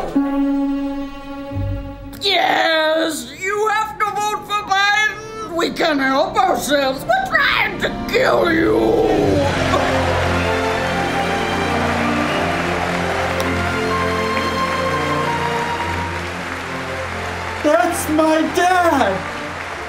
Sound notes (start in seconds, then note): 11.7 emphatic applause